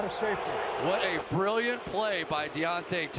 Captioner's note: booing